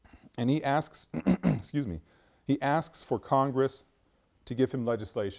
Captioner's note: clears throat